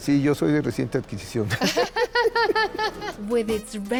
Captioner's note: both laugh